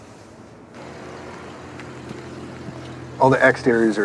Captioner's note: engine rumbling